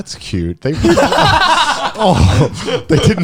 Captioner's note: laughs